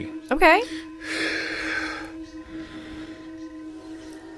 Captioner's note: guru breathes deeply